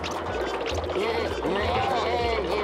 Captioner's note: murmuring